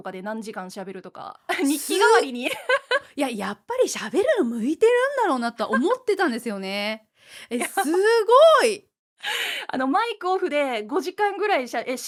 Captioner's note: laughs